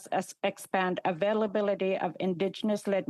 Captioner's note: speaking alternate language